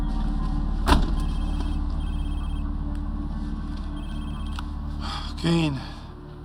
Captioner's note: phone ringing